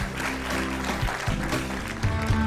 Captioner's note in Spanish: aplausos